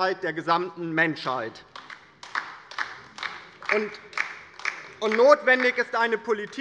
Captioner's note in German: Beifall bei der LINKEN - Zurufe von der CDU